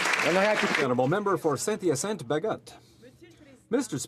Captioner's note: some Applause